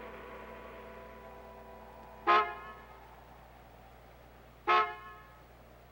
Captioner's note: car horn